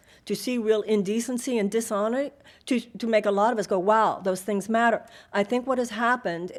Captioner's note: none